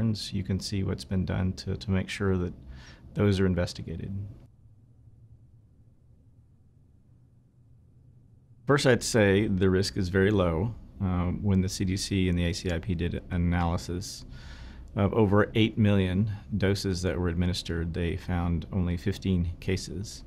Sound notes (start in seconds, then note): 4.1 silence